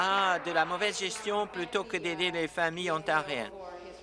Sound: applause

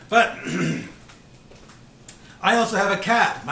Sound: clears throat

